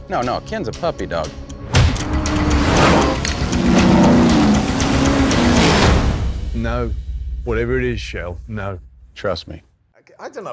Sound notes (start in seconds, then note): 1.5 engine revving; 1.7 loud punch